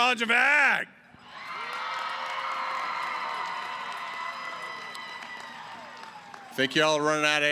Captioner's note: cheering & applause